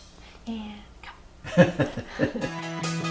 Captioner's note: producer laughs